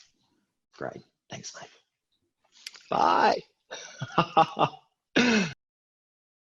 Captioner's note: laughs